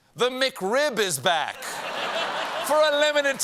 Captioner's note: laughter